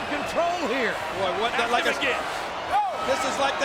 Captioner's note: audience chattering